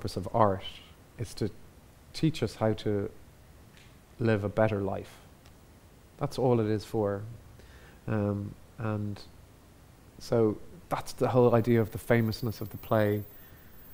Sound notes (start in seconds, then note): none